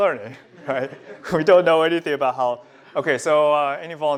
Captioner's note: laughter